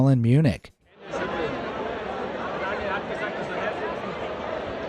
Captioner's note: people chattering